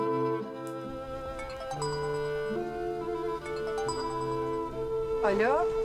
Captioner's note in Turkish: Telefon çalıyor